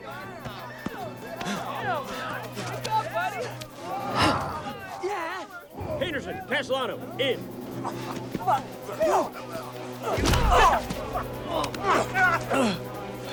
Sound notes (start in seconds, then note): 0.6 tense music continues; 1.9 soldiers cheering; 10.4 Dalton grunts